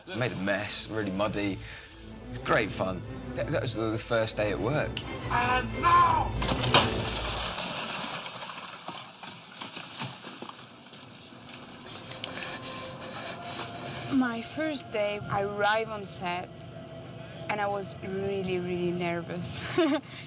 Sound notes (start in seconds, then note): 11.8 panting; 19.5 chuckling